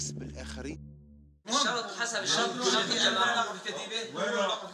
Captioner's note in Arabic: الصوت المنطوق باللغة العربية